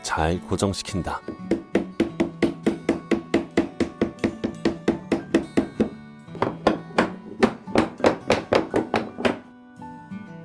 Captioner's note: hammering sound